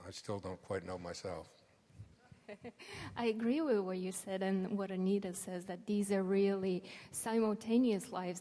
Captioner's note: laughs